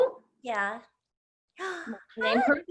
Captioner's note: gasps